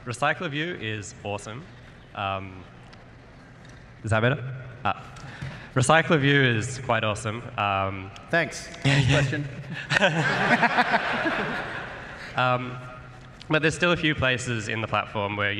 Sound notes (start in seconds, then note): 10.6 laughter